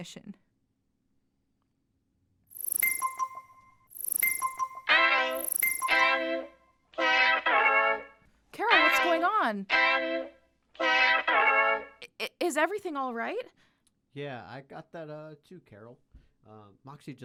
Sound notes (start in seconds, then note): 2.4 notification chimes